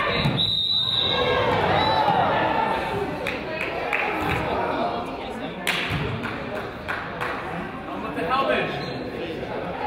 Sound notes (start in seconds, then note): 0.0 whistle blows; 2.1 crowd groans